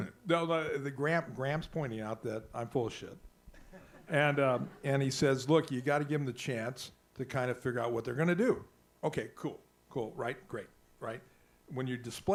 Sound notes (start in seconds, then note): 3.6 audience laughs